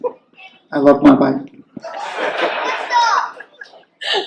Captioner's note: laughing